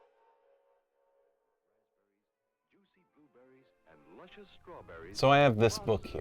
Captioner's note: 1950s radio commercial plays faintly